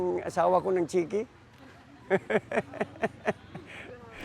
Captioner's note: laughs